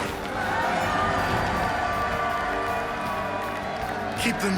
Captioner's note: cheering